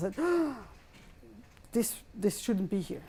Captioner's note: gasps